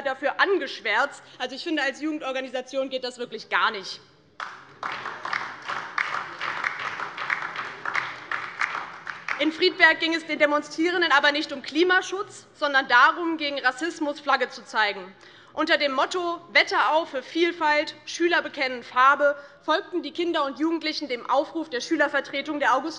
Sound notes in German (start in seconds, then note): 4.4 Beifall DIE LINKE und vereinzelt SPD